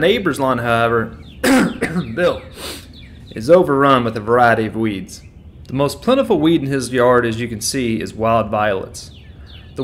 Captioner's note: cough cough